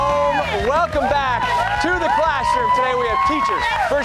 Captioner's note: cheers and applause